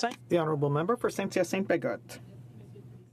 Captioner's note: speaking French